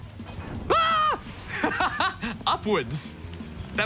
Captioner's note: laughs